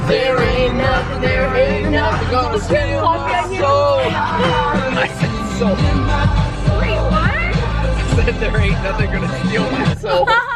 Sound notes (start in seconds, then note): 0.1 both singing; 2.5 singing; 4.9 laughter